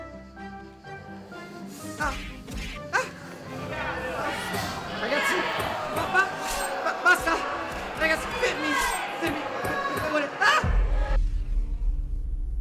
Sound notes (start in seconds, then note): 0.2 upbeat music playing; 2.4 fighting noises; 10.2 angry mob shouting